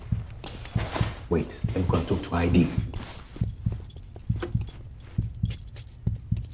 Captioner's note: heartbeat pulsating